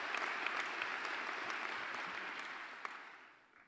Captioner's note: applause